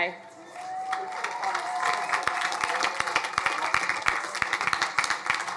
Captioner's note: crowd applauding